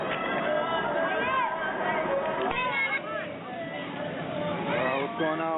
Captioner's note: citizens speaking in foreign language